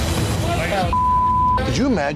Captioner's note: beep